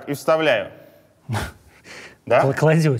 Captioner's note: chuckles